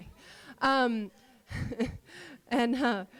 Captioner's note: laughter